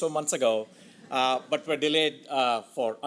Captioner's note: audience laughs